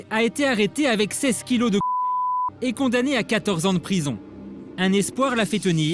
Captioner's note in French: bip